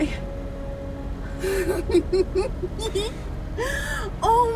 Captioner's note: laughing